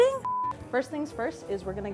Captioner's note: beeping